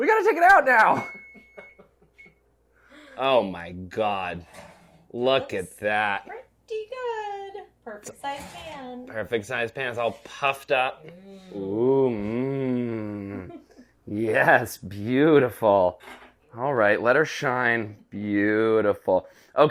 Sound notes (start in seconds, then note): 0.9 timer ringing